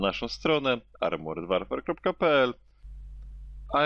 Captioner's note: in polish